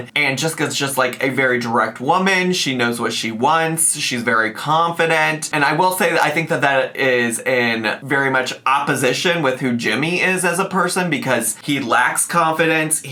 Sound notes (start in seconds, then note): none